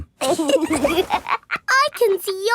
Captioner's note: laughs